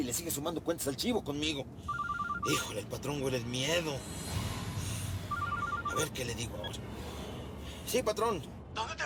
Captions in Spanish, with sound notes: LE SIGUE SUMANDO CUENTAS AL CHIVO CONMIGO. [SUENA UN CELULAR] ¡HÍJOLE! EL PATRÓN HUELE EL MIEDO. [SUENA UN CELULAR] A VER QUÉ LE DIGO AHORA. SÍ, PATRÓN.